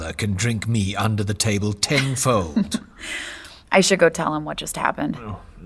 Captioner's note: laughing